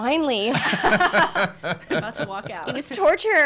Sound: laughing

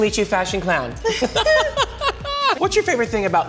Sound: laughing

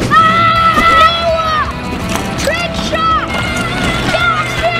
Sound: screaming; screaming

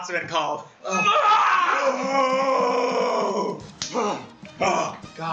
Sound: primal gamer groans

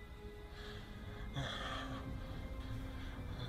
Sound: breaths

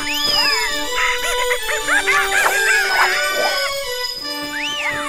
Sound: parrots squawking

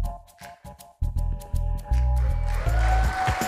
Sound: applause

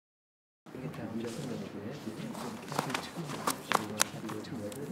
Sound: background chatter

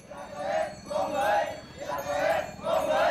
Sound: yelling

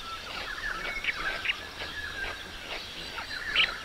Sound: birds calls

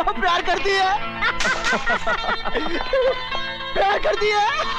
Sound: laughs

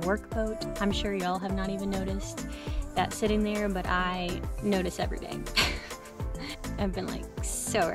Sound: laughter

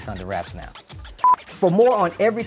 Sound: beep

